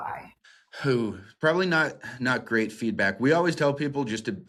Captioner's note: whew